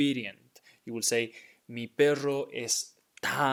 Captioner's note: speaking in Spanish